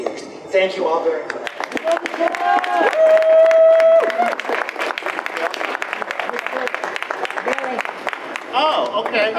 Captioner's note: audience applause